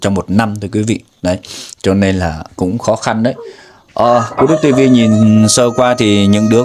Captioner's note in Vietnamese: khịt mũi